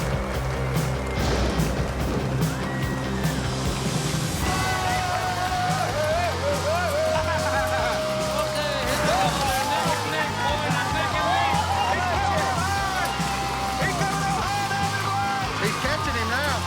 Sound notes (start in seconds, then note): 1.1 thunder; 3.9 screaming; 6.9 laughing; 8.5 cheering